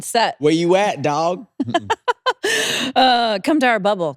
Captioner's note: laughter